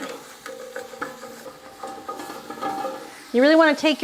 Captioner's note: spoon thumping